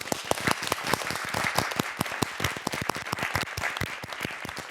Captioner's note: audience clapping